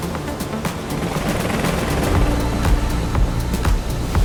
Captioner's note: helicopter whirring; upbeat music